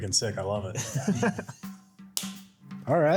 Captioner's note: laughter